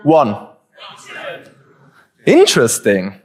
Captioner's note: audience responds